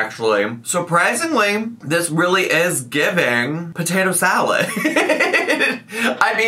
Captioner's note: laughs